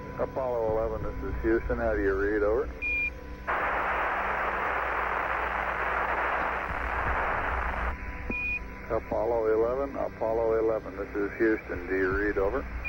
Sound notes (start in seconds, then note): 3.4 radio static